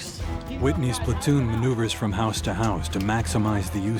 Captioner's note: voiceover